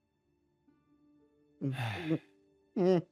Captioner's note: sigh